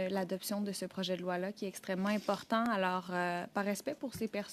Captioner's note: speaking French